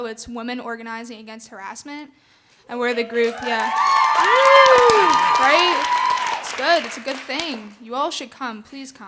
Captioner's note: audience screaming